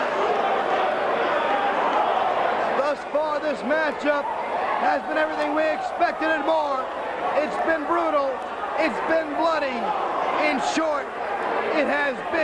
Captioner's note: crowd chatter